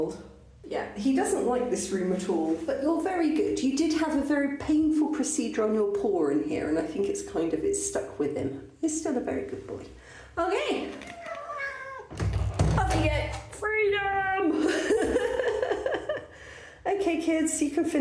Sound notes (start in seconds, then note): 15.8 laughing